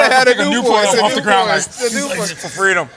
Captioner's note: inhales